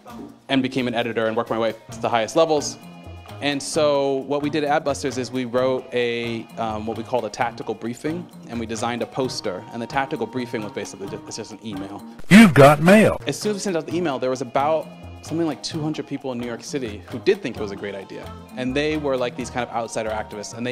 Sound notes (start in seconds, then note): 12.1 computerized voice: you've got mail